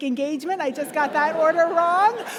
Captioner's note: audience laughing